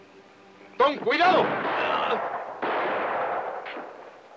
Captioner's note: guns blasting